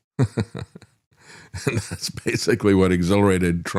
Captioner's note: laughs